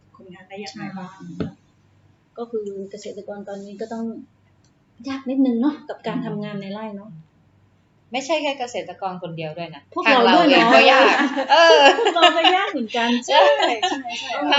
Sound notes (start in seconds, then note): 13.2 haha